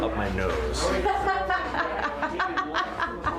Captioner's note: laughs